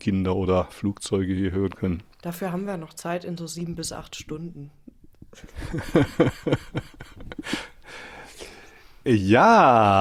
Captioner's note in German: gelächter